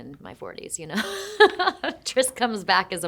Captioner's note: Shailene laughing